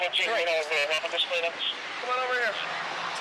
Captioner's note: police radio chatter